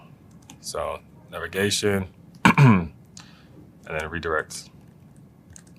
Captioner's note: cough